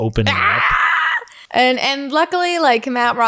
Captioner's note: squeals